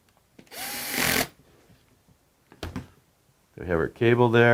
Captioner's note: screwdriver whirs